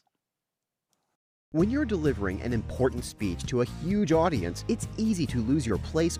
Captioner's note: voice-over